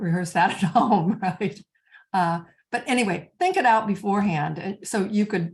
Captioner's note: chuckles